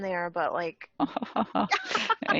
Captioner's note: laugh